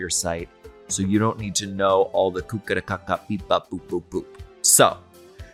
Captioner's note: speaks gibberish